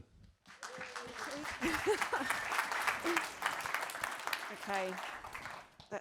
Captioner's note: audience applauds; laughs